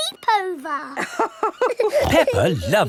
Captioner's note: both laughing